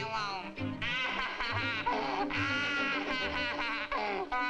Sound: Sammy crying

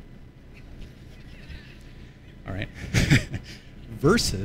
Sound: laughter

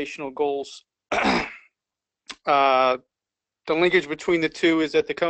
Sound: cough

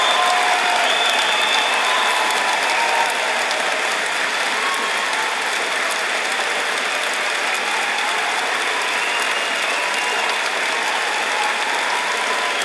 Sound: applause; loud cheering and applause

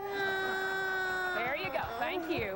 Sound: whines

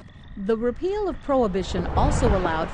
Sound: voiceover

